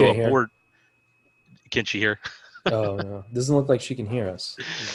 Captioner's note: laughs